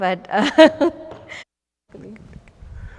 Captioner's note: laughs